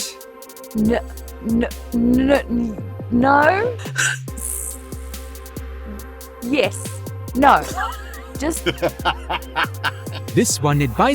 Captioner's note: laughs